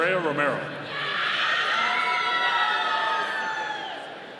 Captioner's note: audience cheering